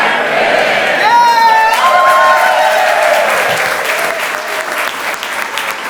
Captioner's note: audience cheers and applauds